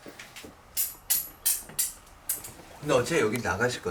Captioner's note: the sound of knives